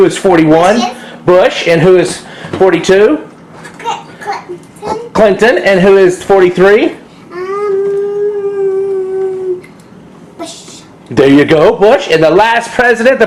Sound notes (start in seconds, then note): 7.6 humming